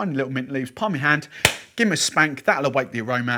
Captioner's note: hands clap